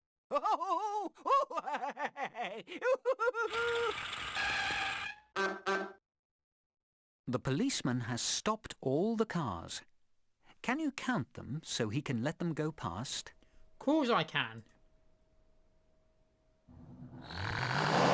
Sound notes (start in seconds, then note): 0.3 policeman laughing whilst being tickled; 3.9 car screeching to a stop; 5.4 car tooting; 16.5 stuttering car acceleration